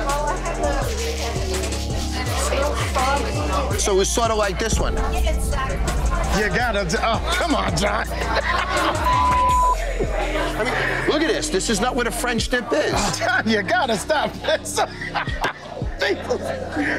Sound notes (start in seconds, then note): 7.1 laughs; 8.9 beeps; 14.2 laughs